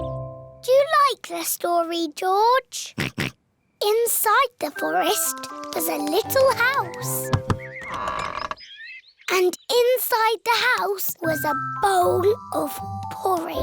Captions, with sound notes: -Do you like this story, George? -(OINKS) Inside the forest was a little house. (DOOR CREAKS) And inside the house was a bowl of porridge.